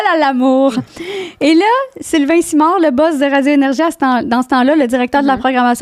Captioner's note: in french